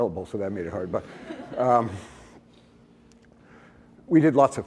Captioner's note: laughter